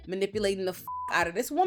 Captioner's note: beep